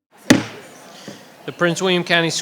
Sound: gavel bangs

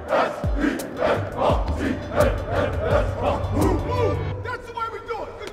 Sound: grunts

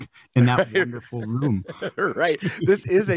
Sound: laughing

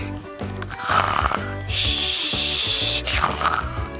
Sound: snoring

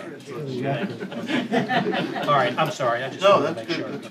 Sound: laughter

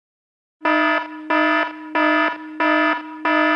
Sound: stock alarm sound

